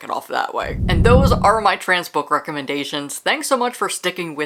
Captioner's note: whoosh